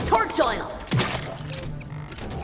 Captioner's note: splat